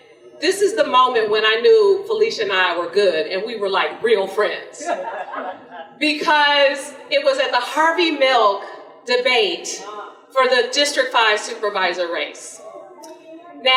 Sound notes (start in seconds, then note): 4.8 audience laughter